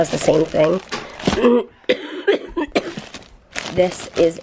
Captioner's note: coughing